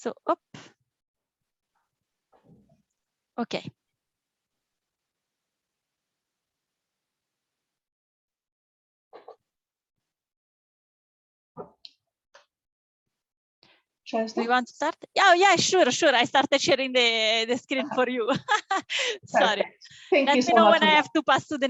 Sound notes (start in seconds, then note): 17.5 laughter